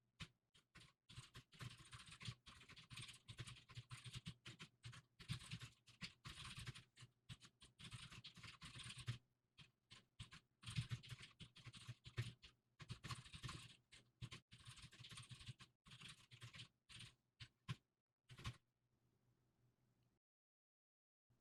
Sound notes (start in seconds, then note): 0.6 typing sounds